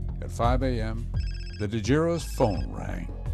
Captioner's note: phone ringing